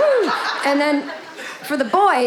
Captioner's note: audience laughing